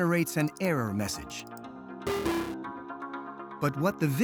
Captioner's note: dings